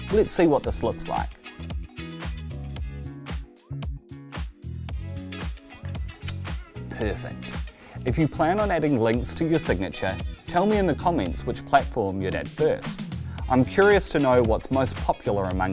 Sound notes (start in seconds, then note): 2.0 light upbeat music; 5.9 lips kissing